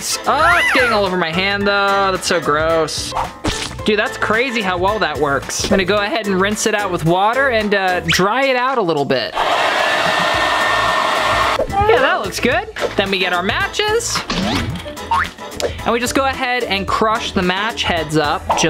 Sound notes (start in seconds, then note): 9.4 air blowing